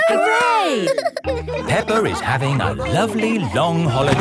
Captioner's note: all laughing